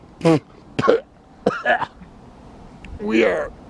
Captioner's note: coughing